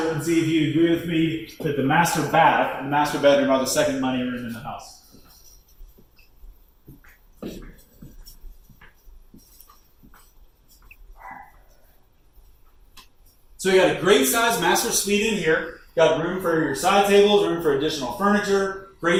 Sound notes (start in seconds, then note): 5.9 footsteps; 11.2 dog barking